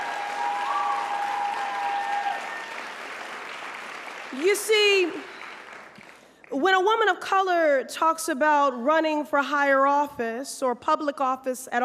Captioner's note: applause